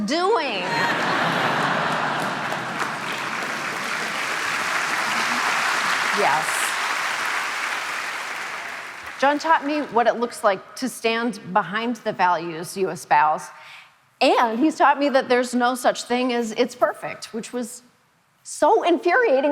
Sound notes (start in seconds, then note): 0.6 audience laughing and applauding; 6.6 audience applauding